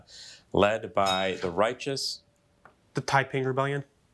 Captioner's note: bell dinging